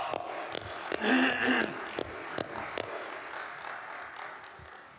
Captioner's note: audience applauding